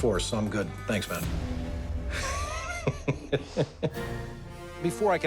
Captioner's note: laughs